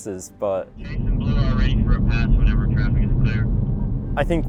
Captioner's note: voice Over Radio